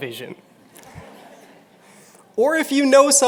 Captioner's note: laughter